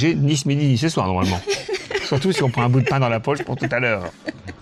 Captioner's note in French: rires